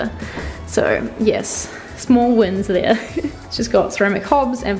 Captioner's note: laughs